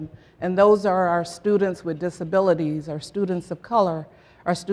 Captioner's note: none